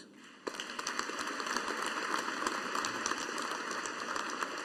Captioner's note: audience applauding